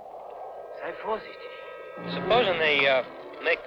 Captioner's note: speaking in a foreign language